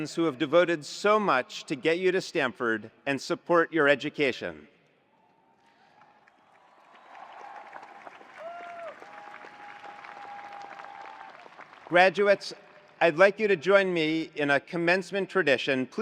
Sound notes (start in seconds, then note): 5.8 attendees applauding; 6.0 attendees cheering